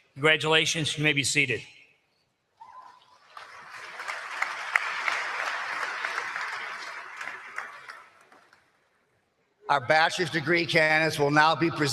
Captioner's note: applause